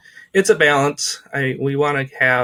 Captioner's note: laughs